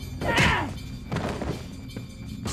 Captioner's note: grunts